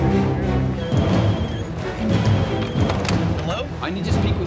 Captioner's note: phone ringing